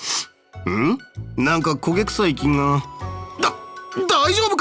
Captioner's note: sniff